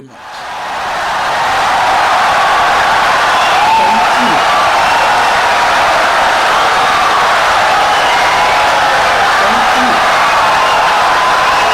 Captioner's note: wild applause and cheering for 17 seconds